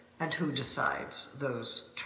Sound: none

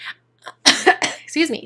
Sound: coughing

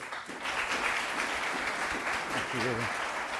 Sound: audience applauding

